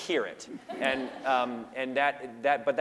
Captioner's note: laughter